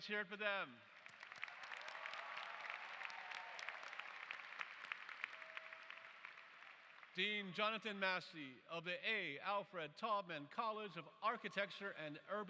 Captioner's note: applause